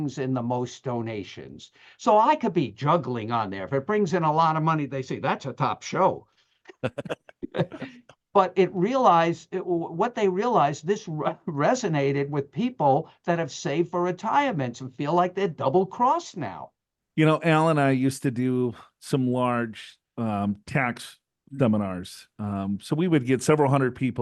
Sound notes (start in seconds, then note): 6.7 laughter